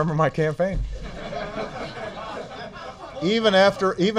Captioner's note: laughter